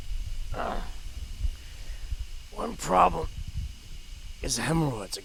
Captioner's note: groans